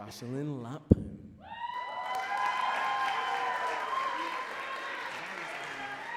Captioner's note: audience cheering and clapping